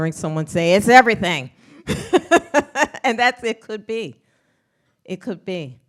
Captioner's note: laughs